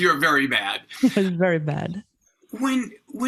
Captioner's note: chuckles